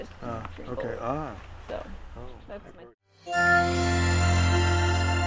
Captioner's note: group chattering; bright upbeat music